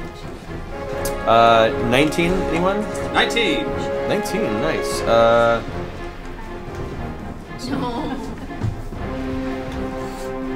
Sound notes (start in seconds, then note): none